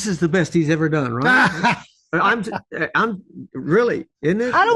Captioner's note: Michael laughs